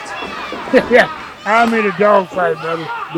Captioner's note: laughs